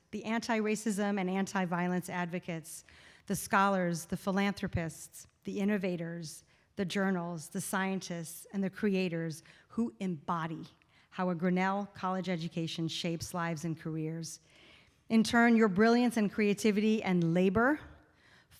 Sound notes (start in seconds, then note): none